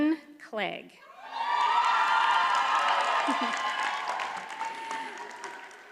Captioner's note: audience cheers and applauds